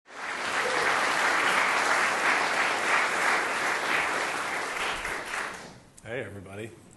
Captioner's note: applause